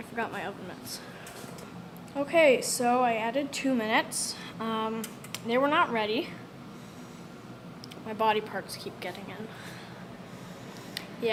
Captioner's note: inhale